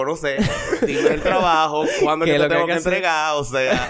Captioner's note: laughs